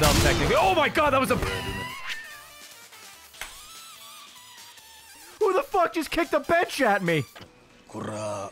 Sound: laughs

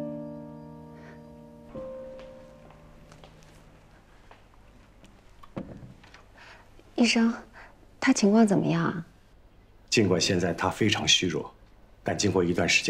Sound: silent

